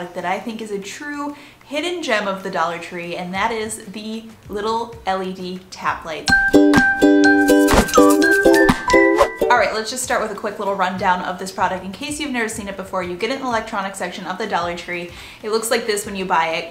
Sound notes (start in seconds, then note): 6.2 bright music; 7.6 whooshing